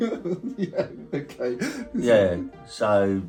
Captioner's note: laughs